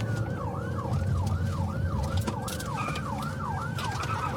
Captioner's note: siren wailing